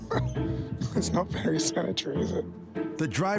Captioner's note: chuckles